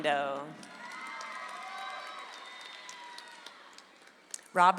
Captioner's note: audience applauds